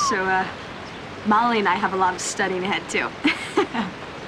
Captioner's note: whistles; laughing